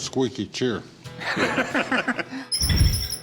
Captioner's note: laughter